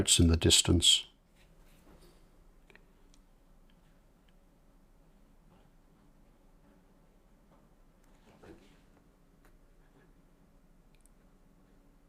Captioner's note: silence